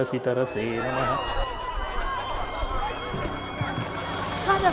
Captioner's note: sirens and helicopter overhead